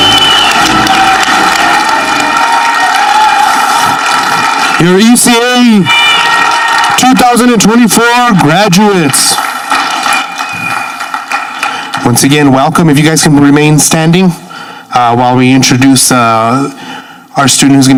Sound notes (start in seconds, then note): 1.6 ceremonial music ends; 10.0 audience clapping